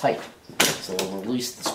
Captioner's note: pop